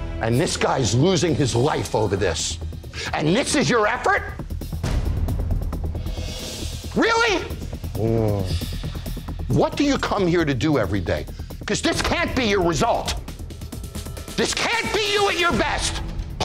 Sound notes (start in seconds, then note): 4.8 suspenseful music; 7.9 groans in shame